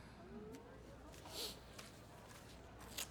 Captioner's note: hushed chatter